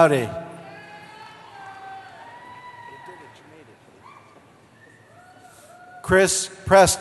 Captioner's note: cheering